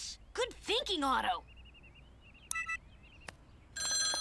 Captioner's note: device beeps; phone ringing